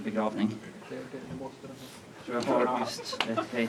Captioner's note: laughter